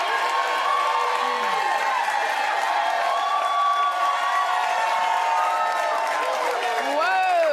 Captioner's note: cheers and applause